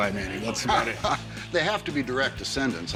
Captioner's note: laughs